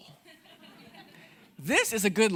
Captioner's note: audience laughing